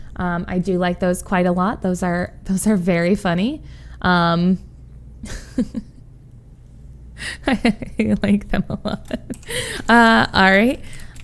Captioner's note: laughs